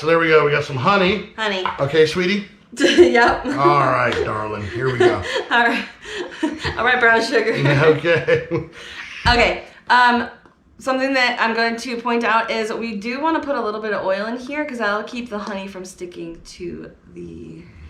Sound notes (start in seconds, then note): 4.7 chuckling